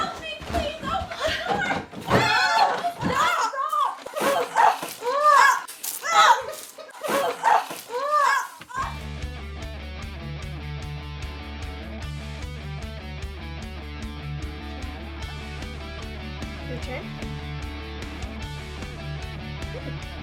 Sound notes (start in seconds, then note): 3.7 water squirting; 9.5 upbeat Christmas-themed rock music